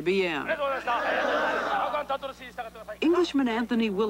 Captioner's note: shouting